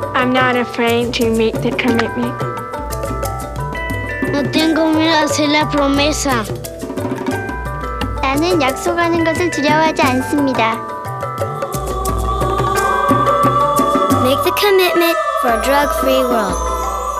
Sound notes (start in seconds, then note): 4.4 boy speaking in foreign language; 8.2 girl speaking in foreign language